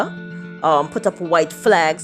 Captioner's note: soundbite of archived recording